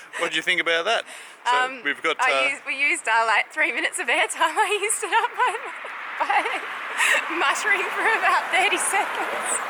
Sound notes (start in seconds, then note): 6.2 laughing